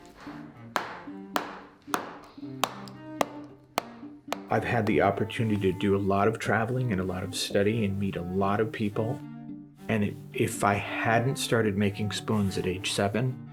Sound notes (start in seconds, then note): 0.7 hammer thumps